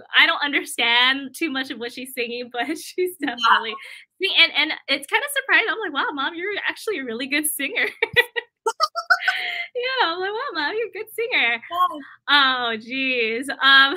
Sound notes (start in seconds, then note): 7.8 laughter